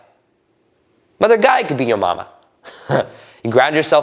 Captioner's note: laughing